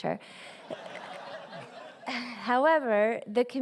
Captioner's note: laughter